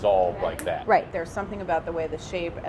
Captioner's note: snaps fingers